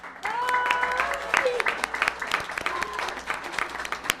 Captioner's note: applause